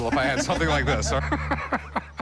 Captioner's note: chuckling